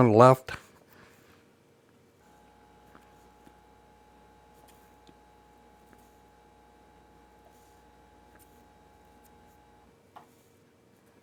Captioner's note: silence